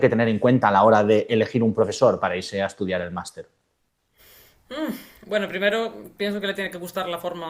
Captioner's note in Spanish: resoplido